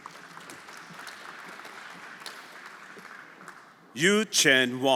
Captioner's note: everyone applauding